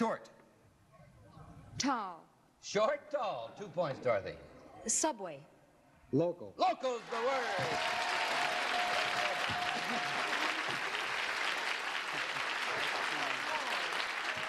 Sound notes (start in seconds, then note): 6.9 cheers and applause